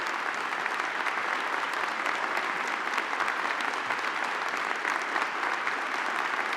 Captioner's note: audience continues applauding